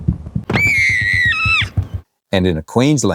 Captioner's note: Bluey screaming; feet pattering